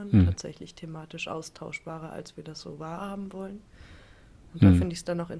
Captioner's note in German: räuspern